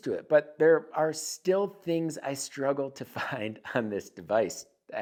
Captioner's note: chuckles